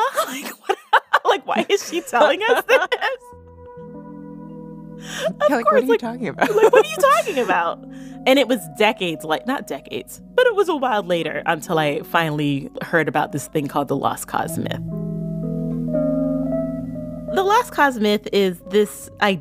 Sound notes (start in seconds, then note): 2.3 laugh